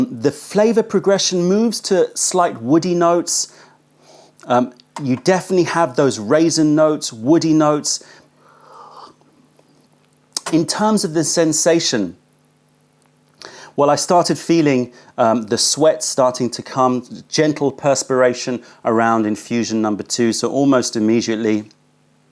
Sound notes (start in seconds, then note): 3.9 sips tea